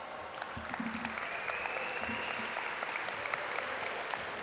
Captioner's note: audience applaud